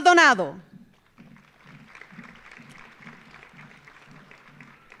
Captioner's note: audience applauding